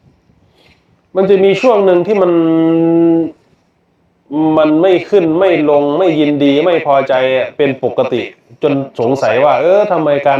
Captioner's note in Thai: เสียงสูดหายใจ